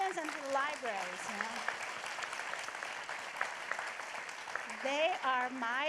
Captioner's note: applause